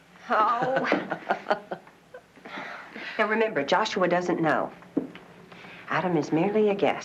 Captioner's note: Tertawa